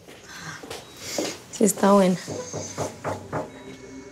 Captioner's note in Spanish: Toques en la puerta